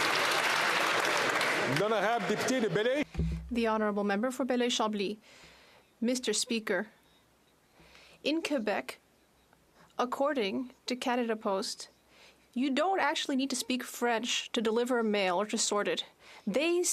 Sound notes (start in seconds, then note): 5.6 speaking French